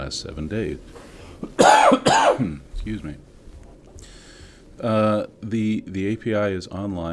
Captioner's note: cough